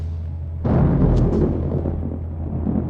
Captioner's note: thunder clap